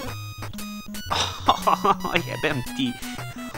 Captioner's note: crying